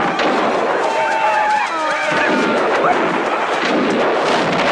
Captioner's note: Aplausos